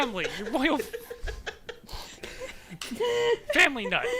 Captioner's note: laughter